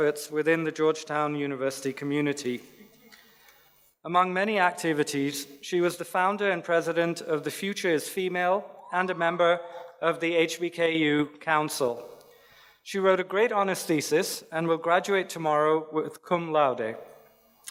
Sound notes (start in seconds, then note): none